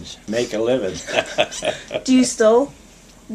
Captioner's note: laughter